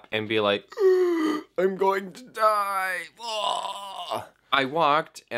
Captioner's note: zombie like groaning sound